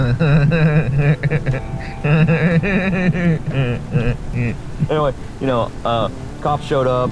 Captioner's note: Chris laughing